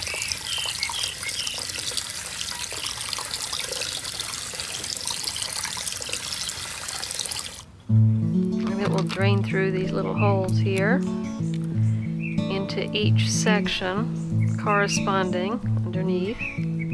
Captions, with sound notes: (birds singing) (energetic Spanish guitar) And it will drain through these little holes here, into each section, corresponding underneath,